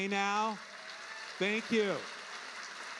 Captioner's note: audience applauding